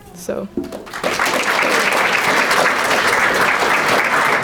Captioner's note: crowd clapping